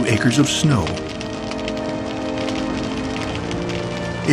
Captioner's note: flames crackle